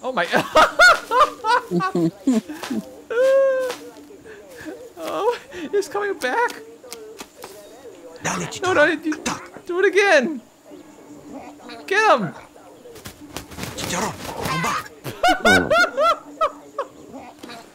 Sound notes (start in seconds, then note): 0.2 laughs; 15.0 laughs